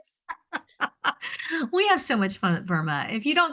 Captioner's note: laughs